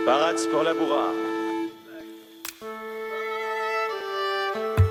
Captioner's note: speaking foreign language